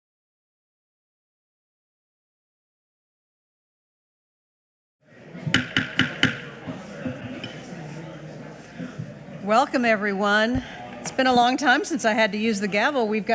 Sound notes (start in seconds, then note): 5.5 gavel thudding; 7.2 indistinct chatters